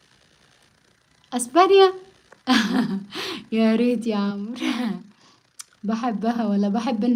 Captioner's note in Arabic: تنحنُح